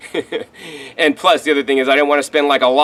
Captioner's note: chuckles